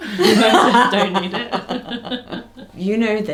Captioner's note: both laugh